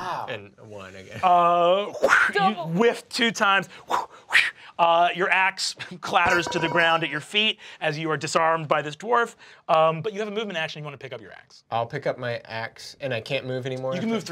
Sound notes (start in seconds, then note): 1.8 whooshes; 4.5 whooshing